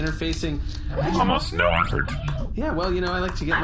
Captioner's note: typing